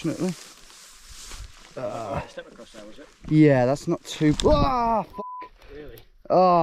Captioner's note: yells